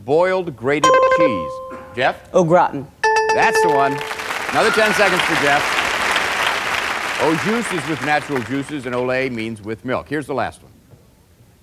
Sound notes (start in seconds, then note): 0.8 button chimes; 0.8 dinging; 5.2 applause